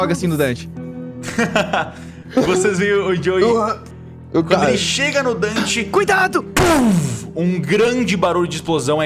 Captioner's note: pow